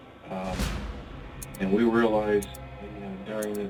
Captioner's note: timer ticking